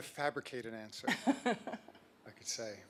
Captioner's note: laugh